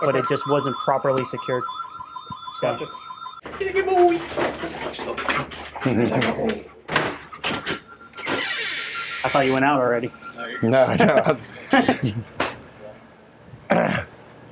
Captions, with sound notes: but it just wasn't properly secured. - Good boy. (door opening) - I thought you went out already. - No. (laughing)